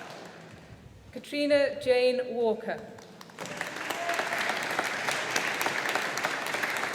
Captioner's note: audience applauding